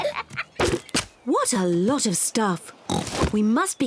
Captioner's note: oinks